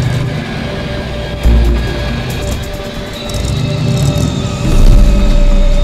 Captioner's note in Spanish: motor revolucionando